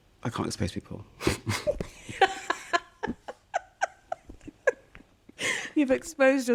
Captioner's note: laughter